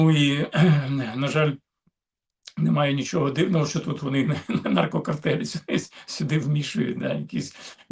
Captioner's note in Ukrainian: прочищення горла